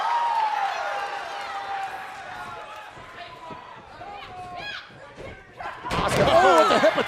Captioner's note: cheers and applause